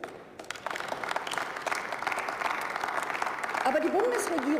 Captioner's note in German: Beifall